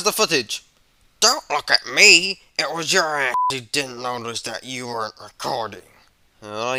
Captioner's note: beep